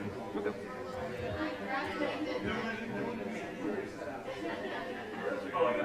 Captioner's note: chatter